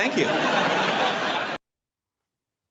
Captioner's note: audience laughs